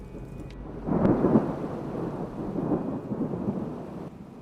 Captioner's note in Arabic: دوي الرعد